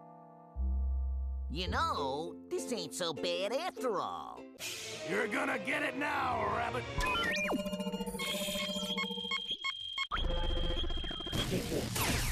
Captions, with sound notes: YOU KNOW, THIS AIN'T SO BAD AFTER ALL. YOU'RE GONNA GET IT NOW, RABBIT. [beeping]